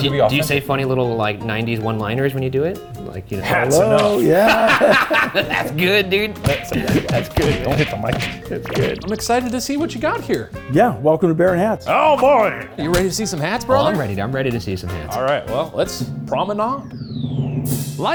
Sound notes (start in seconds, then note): 3.5 laughing; 6.3 hand thumping; 8.4 digital pulsing; 12.7 hand slapping; 15.5 drum roll music